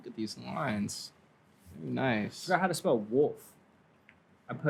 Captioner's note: none